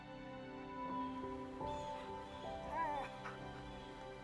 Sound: birds chirping; gentle music

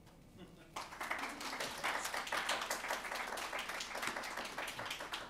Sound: audience clapping

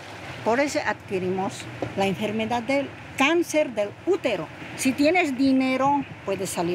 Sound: speaking in foreign language

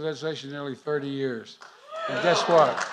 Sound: applause

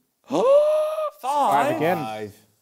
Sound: gasps

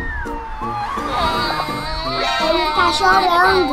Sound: crying

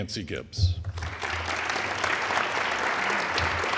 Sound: all applauding

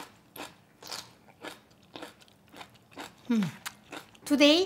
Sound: crunching

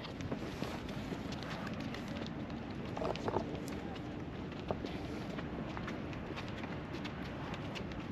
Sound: wind blowing; speaking in foreign language

